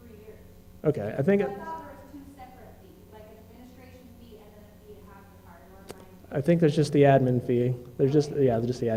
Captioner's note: pause